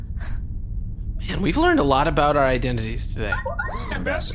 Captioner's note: transmission alert noise